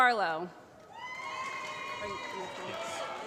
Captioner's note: applause